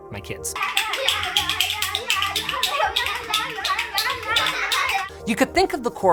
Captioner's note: kids laughing, toys clattering